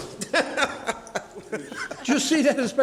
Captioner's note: laughs